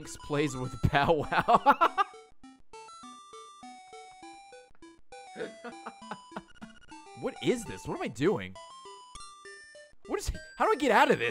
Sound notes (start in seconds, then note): 5.4 laughs